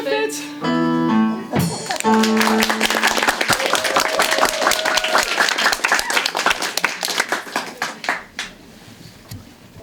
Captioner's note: applause